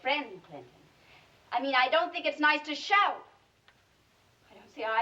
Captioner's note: shouting